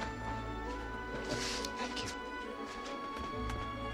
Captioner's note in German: Lacht